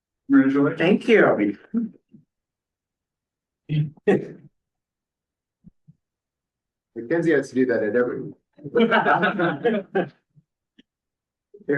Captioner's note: laughter